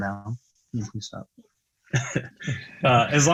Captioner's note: chuckles